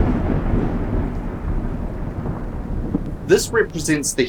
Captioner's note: thunder